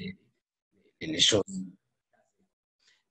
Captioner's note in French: coupure audio